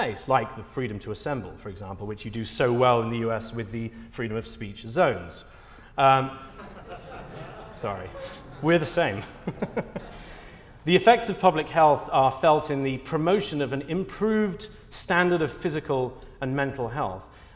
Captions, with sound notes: like the freedom to assemble, for example, which you do so well in the U.S. with the freedom of speech zones. [Laughter] Sorry, we are the same. [chuckles] The effects of public health are felt in the promotion of an improved standard of physical and mental health.